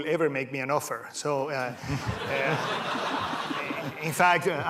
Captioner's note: laughter